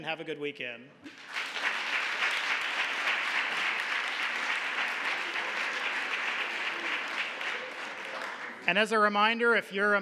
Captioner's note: applause